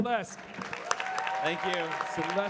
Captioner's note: audience cheering and clapping